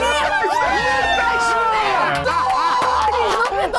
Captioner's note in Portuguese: gritos